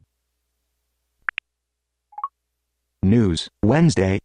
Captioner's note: phone beeps